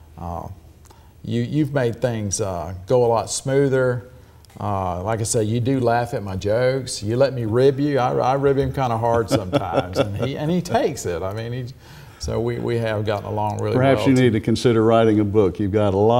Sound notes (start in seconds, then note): 9.0 laughs